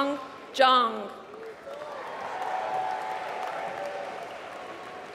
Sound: applause

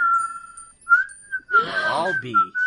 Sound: Bin-san, happy gasp!

